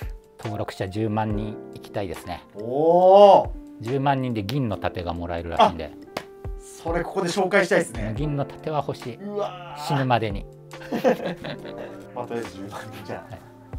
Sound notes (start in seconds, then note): 10.8 laughing